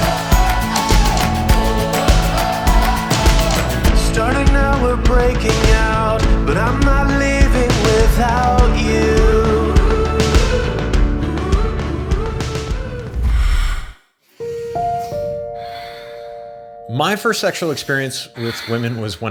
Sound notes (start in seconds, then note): 0.1 upbeat music continues; 7.5 upbeat music continues; 14.4 female sighs